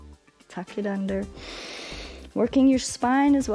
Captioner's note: inhales